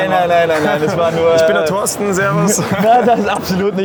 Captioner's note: laughs